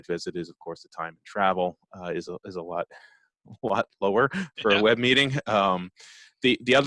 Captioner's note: laughs